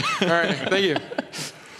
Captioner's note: laughing